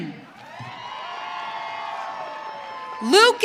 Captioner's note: audience cheering